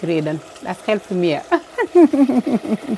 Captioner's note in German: lacht